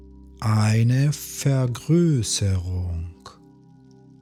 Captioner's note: german